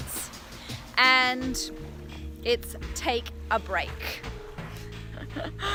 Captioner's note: laughs